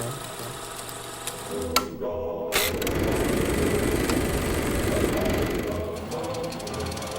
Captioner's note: film reeling; upbeat music